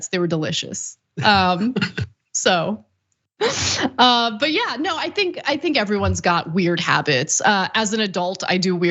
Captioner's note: laugh